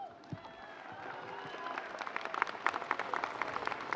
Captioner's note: audience cheering